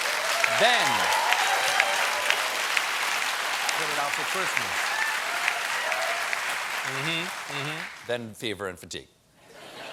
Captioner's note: applause; laughter